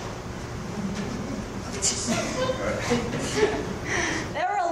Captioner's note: audience chuckles